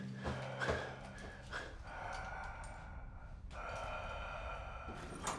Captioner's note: pants; Palle breathes deeply